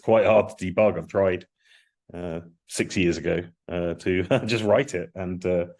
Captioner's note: laughs